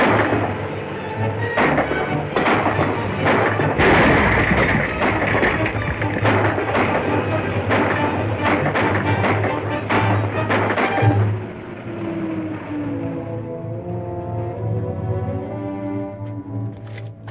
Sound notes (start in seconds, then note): 2.3 explosion